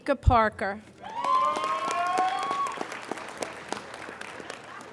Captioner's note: applauding